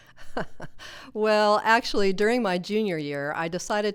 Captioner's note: chuckles